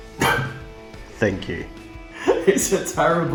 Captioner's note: laughs